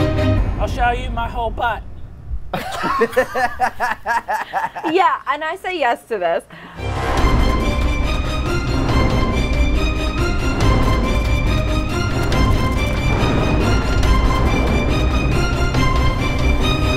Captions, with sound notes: - I'll show you my whole butt. (laughs) - Yeah, and I say yes to this. (mysterious music)